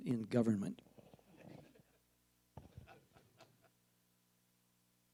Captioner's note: panel members laugh